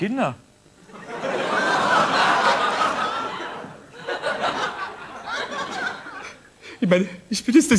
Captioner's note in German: Gelächter